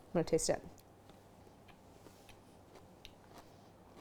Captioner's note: crunching